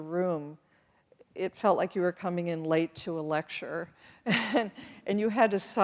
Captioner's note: chuckles